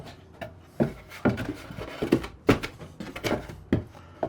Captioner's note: wood clattering